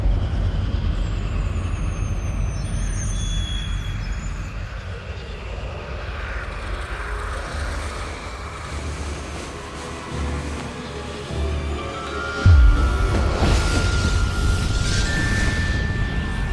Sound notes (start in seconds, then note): 5.0 ominous whispers; 5.0 winds rushing; 8.6 ominous orchestral music; 12.4 moves into shadowy bell music